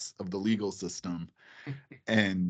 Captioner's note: chuckling